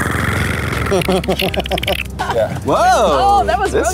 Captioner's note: clicking alien noise